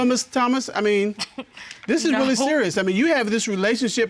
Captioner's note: scoffs